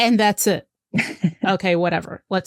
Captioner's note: laughs